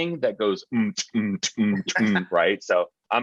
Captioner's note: chuckling; smacking lips